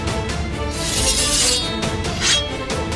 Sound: sword swishing

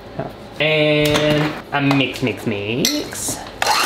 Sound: mixer whizzing

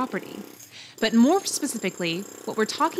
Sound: drilling

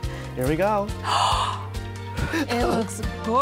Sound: gasps

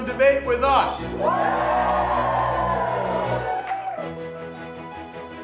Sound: crowd yells and cheers

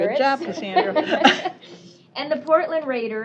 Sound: laughter

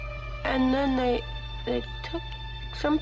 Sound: none

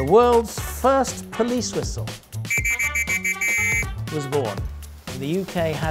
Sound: whistle noises

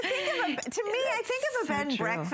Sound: laughter

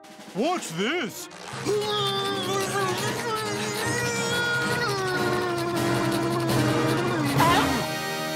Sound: grunting

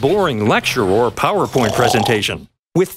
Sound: snoring instructor

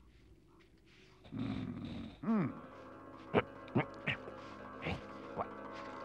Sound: Henchman Weasel groans

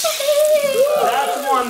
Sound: people exclaiming

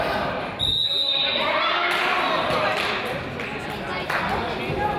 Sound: whistle blows

